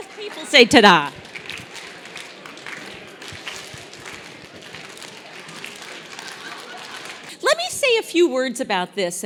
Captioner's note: applause